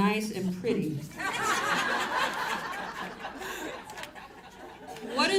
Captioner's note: audience laughs